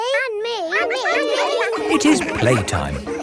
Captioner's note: all laughing